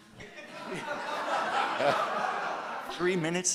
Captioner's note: audience laughing